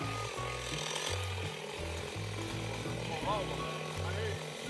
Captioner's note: chain saw rumbles